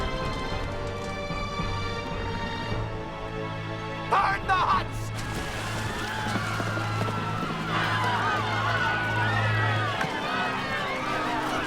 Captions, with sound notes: - Burn the huts! (horses galloping) (splashing) (people yelling)